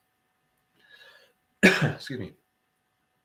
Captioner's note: coughs